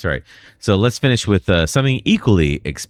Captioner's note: uh